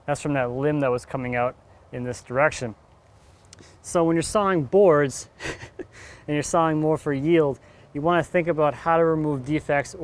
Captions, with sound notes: That's from that limb that was coming out in this direction. So when you're sawing boards (laughs) and you're sawing more for yield, you wanna think about how to remove defects,